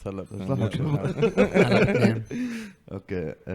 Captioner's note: laughs